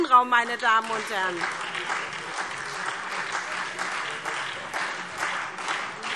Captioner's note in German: Beifall SPD, Freie Demokraten und vereinzelt DIE LINKE